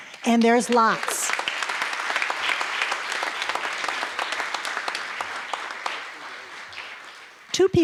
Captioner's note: applause